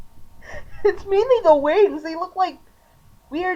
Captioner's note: laughter